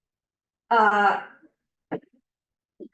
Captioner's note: none